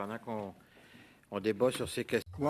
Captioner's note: speaking French